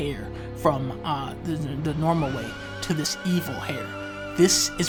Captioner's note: stutter